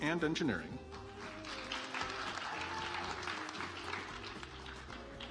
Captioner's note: audience applauds